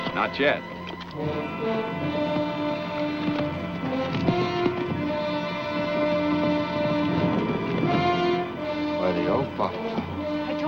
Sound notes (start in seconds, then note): 3.0 hooves thundering